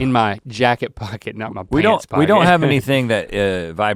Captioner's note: laughs